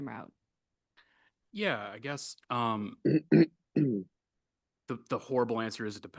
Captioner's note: clears throat